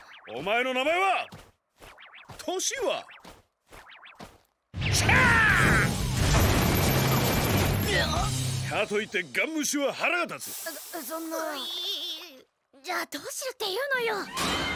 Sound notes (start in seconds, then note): 5.0 shouts